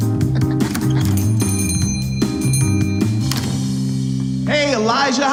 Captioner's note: Muppet laughs; door bell rings